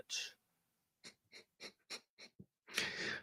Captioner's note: chuckles